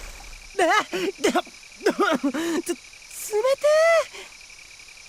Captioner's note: cough